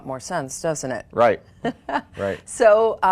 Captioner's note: laughing